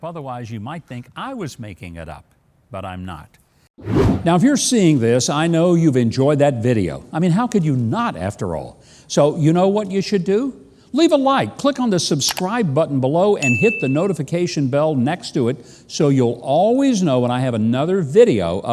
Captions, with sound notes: otherwise you might think I was making it up. But I'm not. (wind whooshing) Now if you're seeing this, I know you've enjoyed that video. I mean, how could you not, after all? So, you know what you should do? Leave a like, click on the subscribe button below, (bell dinging) and hit the notification bell next to it, so you'll always know when I have another video